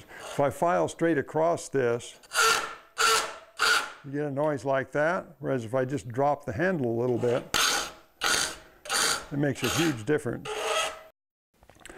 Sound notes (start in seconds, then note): 2.2 metal-on-metal rasping; 7.0 metal-on-metal scraping